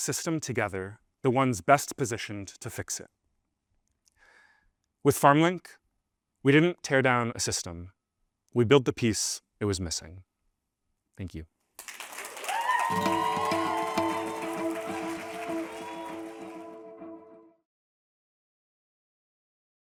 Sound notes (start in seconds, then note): 11.8 audience applauding and cheering